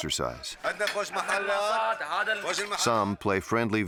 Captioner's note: speaking in foreign language